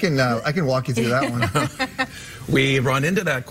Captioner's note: both hosts laugh